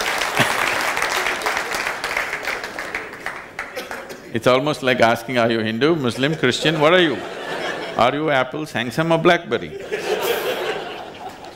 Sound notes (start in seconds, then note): 6.3 laughter; 9.6 laughter